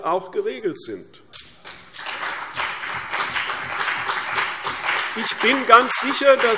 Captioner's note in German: Beifall CDU und BÜNDNIS 90/DIE GRÜNEN